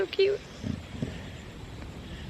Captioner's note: snoring sounds